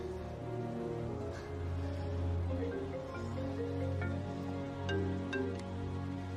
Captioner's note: phone ringing